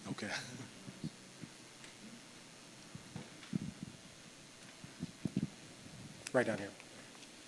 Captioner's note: chuckles